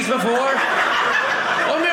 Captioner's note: audience laughing